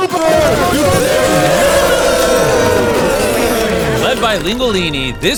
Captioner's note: cheering